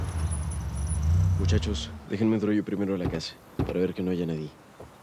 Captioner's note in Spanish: sonido de motores